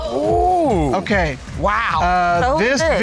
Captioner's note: exclaiming